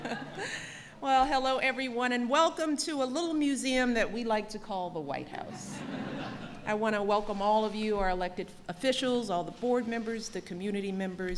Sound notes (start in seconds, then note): 0.0 laughter; 5.6 laughter